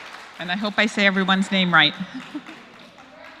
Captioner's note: applause; laugh